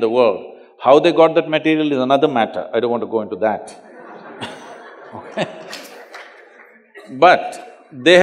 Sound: laughter

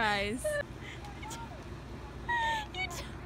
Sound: laughing

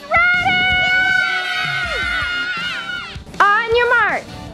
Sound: children cheering

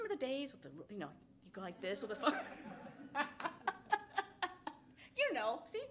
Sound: laughs

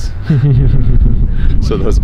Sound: man laughs

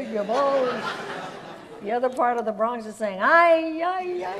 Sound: audience laughs

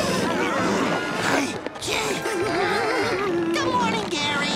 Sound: groaning; shuddering

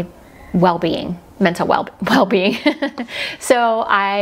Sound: giggles

